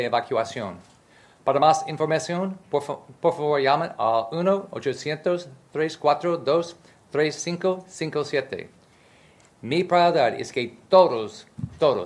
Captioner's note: speaking in spanish